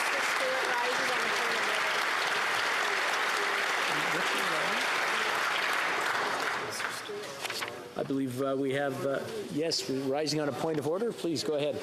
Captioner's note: applause